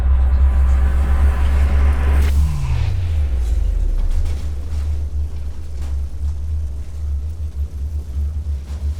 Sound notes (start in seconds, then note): 3.6 flames crackling